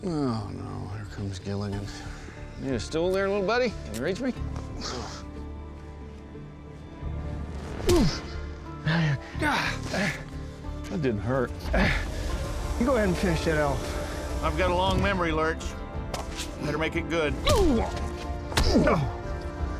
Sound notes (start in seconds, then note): 7.8 punch; 17.4 groaning